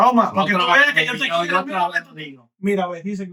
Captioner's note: speaking In Foreign Language